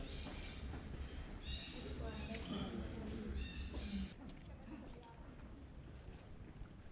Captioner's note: birds squawking and tourists chattering indistinctly